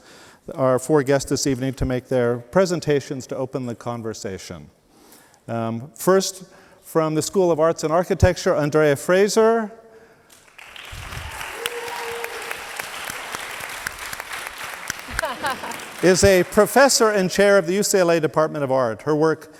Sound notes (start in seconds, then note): 10.5 audience cheers; 14.8 laughs